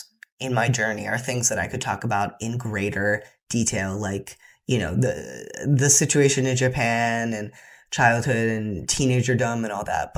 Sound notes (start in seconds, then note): none